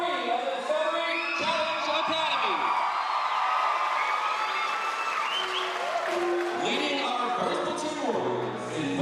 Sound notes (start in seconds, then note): 3.9 cheering; 3.9 piano playing